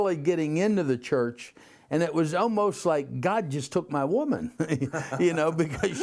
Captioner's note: laughter